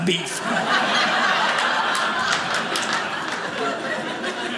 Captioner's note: audience laughing